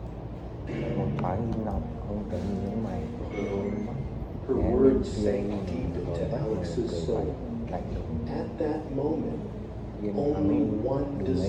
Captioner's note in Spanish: carraspeo